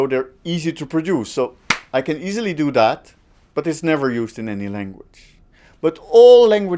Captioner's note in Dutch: klap